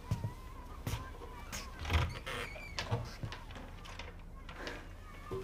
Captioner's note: kids chattering in distance